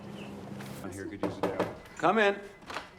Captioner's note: knocking on door